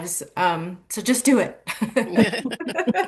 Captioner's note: laughing